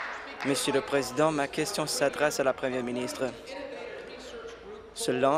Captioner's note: applause